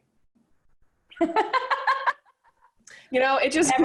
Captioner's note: laughs